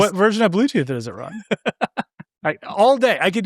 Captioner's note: laughing